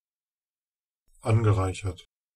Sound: fast Pronunciation

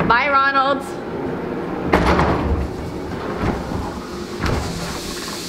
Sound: doors sliding closed

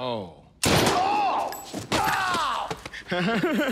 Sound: gun firing; groaning; laughing; groaning

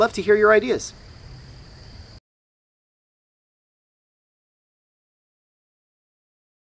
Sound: crickets chirping loudly continues

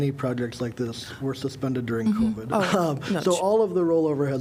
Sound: laughter

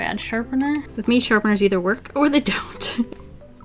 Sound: laughs

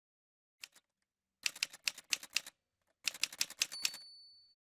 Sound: typewriter sounds

